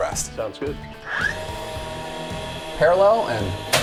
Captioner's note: nail gun buzzing